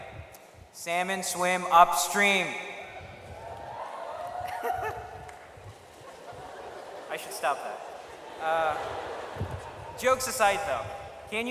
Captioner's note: laughs again